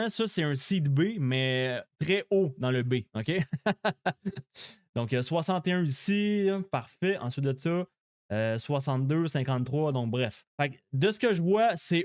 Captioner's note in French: rires